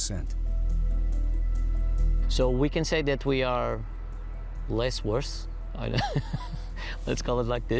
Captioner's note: chuckles